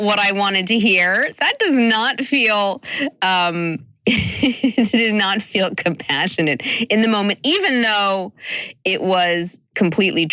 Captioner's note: chuckle